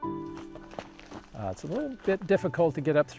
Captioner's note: footsteps crunching